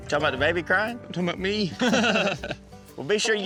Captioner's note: all laugh